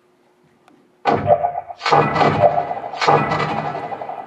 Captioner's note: portal gun fires